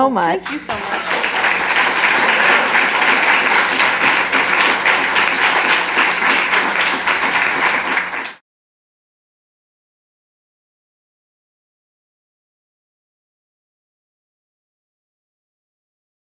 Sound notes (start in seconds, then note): 1.2 applause